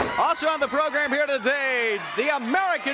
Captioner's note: crowd chatter